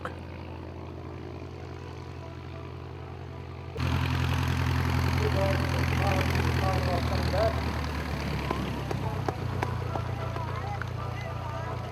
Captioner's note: aircraft sounds